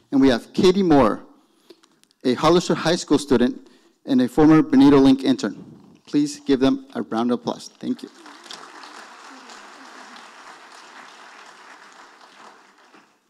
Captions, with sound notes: and we have Katie Moorer, a Hollister High school student, and a former BenitoLink intern. Please give them a round applause, thank you. (audience applauding)